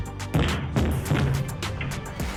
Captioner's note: door banging